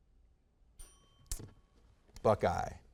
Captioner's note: bell chimes